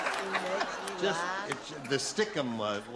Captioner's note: laughter; clapping